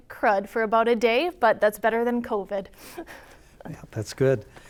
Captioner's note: laughs